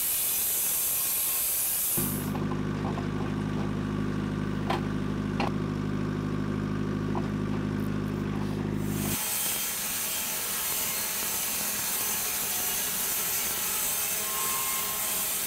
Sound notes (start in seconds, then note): 7.4 engine idling